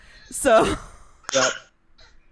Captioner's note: laughs